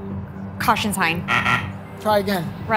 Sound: beep, beep

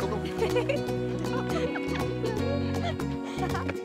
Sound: laughing

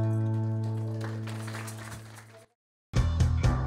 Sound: applause

